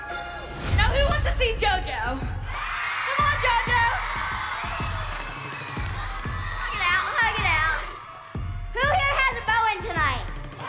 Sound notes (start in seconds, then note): 2.0 crowd cheering